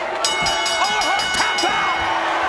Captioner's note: bell dings